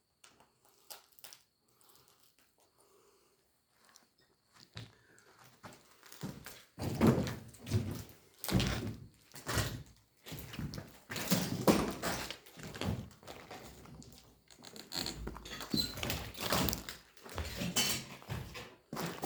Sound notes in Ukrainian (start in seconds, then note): 6.8 кроки, хрускіт, скрипи